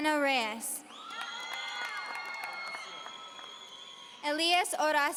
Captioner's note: audience cheering